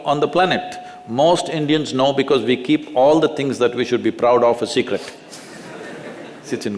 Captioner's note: laughter